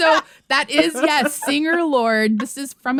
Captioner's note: laughter